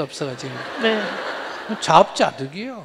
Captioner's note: audience Laughter